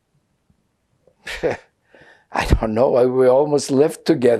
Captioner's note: laughing